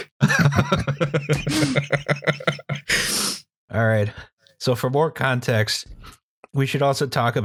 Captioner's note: laughter